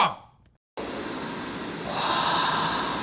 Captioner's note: static buzzing